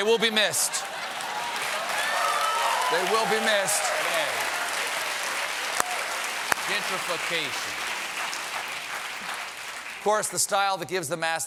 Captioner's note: cheers and applause